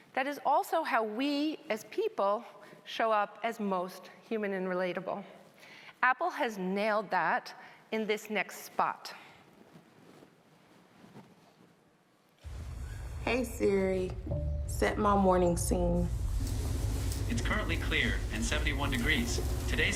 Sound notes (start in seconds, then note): 16.4 curtain motors humming